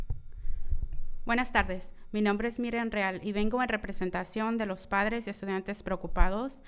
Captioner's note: speaking in foreign language